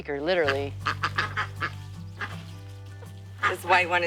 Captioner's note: ducks quacking and chickens clucking